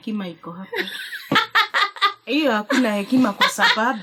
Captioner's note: laughter